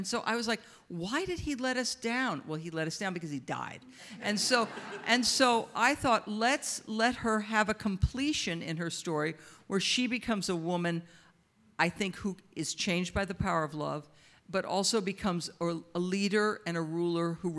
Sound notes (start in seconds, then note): 4.1 audience laughs